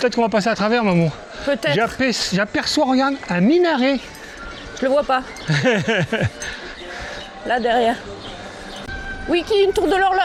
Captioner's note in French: rires